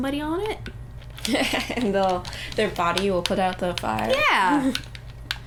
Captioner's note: laughing